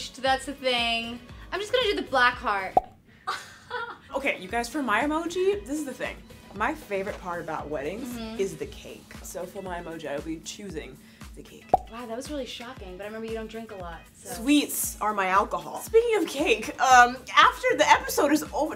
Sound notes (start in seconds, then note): 3.3 laughs